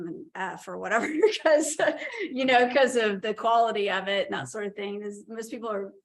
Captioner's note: laughter